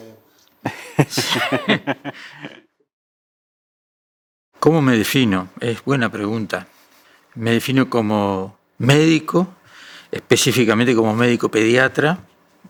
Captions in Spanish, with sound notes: (Risas). ¿Cómo me defino? Es buena pregunta. Me defino como médico, específicamente como médico pediatra